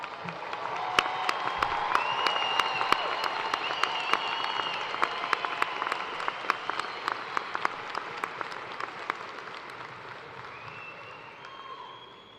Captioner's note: cheers and applause